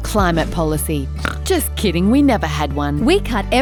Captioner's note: snort